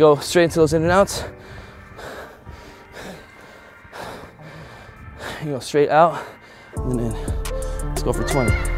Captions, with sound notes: - Yo, straight into those in and outs. (breathing hard) Gonna go straight out and in. Let's go for 20.